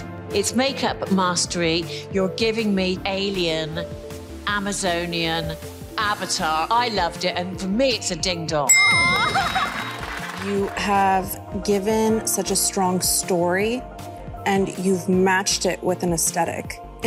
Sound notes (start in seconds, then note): 8.7 graphics dinging; 9.0 contestant laughing; 9.2 audience clapping